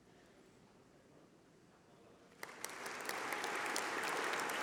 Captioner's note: applause